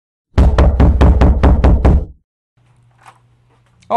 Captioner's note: knocking at door